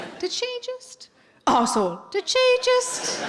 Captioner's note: coughs; audience laughing